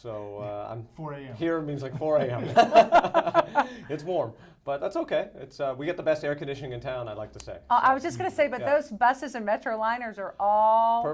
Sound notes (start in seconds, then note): 2.4 laughing